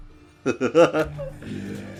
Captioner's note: laughs